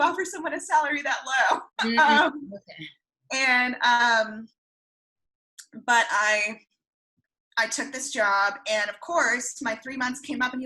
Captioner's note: laughs